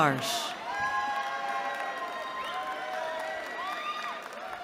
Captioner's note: cheering